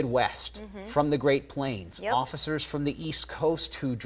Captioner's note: none